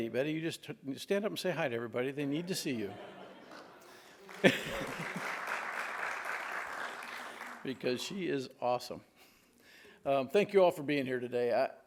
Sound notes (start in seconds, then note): 2.3 audience laughs; 3.3 audience applauds; 4.5 laughs